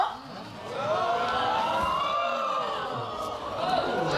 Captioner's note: audience exclaiming